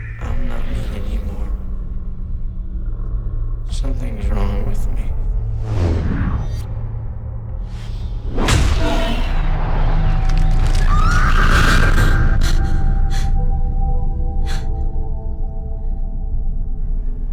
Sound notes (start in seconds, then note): 10.8 Mattie screams; 11.6 gasping